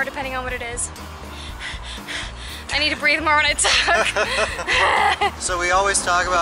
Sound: laughter

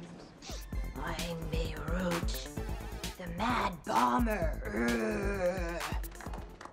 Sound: growls

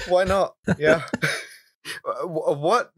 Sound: laughter

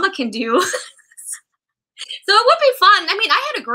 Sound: laughter

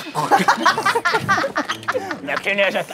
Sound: bursts out into laughter

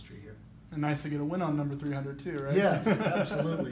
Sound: laugh

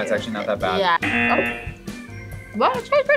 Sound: buzzer

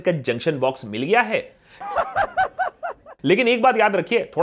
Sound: laughs

